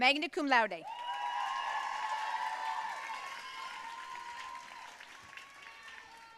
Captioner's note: audience cheering and applauding